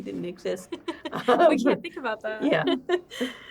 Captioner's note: laughs